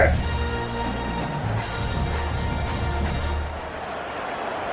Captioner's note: crowd Noises